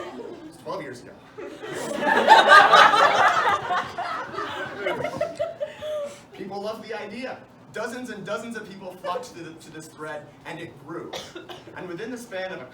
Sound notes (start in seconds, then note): 3.6 deep breath; 5.1 laughter